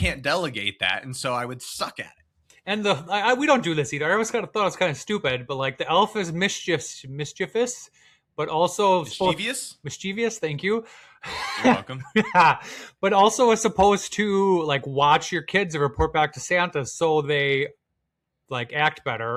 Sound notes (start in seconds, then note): 11.2 laugh